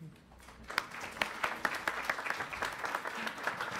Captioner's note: applause